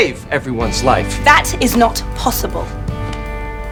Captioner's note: shouting